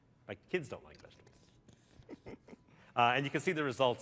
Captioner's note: laughter